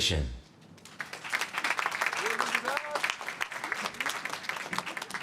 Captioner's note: applause